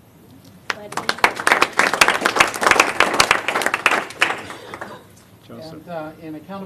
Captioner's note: applause